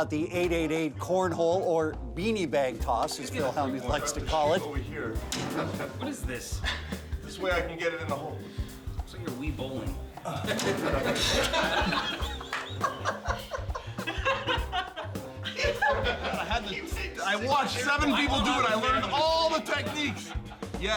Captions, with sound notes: out the 888 corn hole or beanie bag toss as Phil Hellmuth likes to call it. >> What is this? >> This way I can get it in the hole. >> Looks like you're Wii Bowling. [LAUGH] >> I had the, I watched seven people do it, I learned all the techniques.